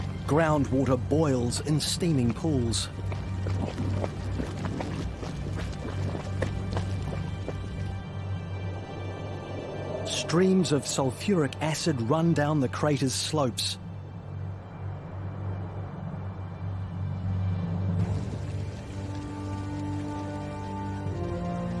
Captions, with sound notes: Groundwater boils in steaming pools, streams of sulfuric acid run down the crater's slopes. (water splashing)